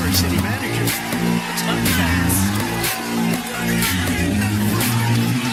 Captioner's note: Aplauze